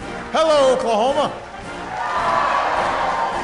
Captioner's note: applause and cheers